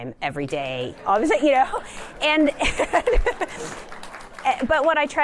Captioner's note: laughter; applause